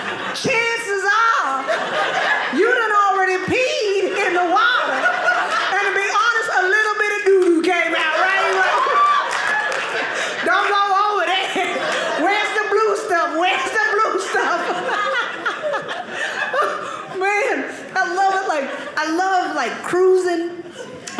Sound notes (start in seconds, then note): 5.1 audience laughing; 14.2 audience laughing